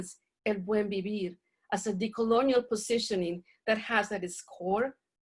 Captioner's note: speaking spanish